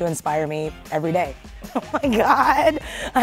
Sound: Awkwafina laughs

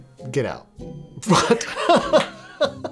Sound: laughing

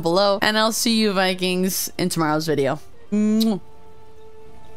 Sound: kiss

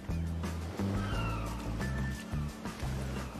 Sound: seagulls

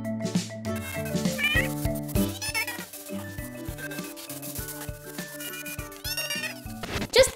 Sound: meowing

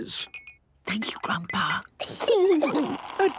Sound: Granny whispering; children giggling

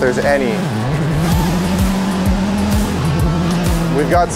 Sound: engine revs

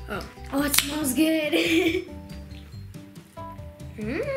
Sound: laughs

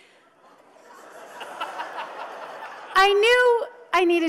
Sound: audience laughs

